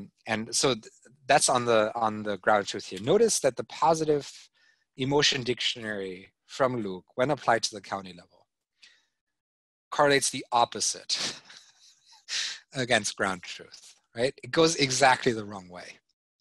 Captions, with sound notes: And so that's on the gratitude. Notice that the positive emotion dictionary from look when applied to the county level, correlates the opposite. (chuckling) Against ground truth, it goes exactly the wrong way.